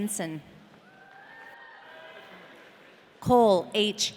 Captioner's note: audience cheering